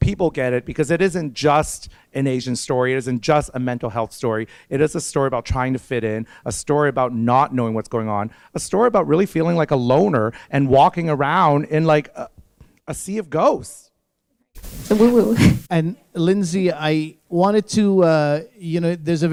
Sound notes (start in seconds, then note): 15.1 chuckle